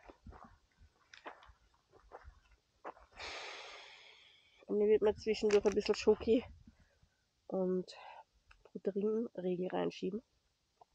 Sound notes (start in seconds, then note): 3.2 sighs